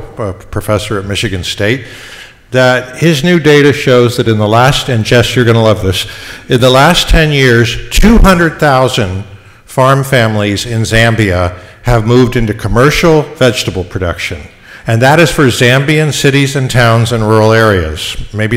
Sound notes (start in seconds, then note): none